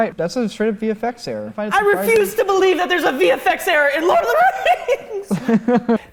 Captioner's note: cries